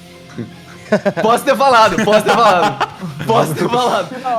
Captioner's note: laughs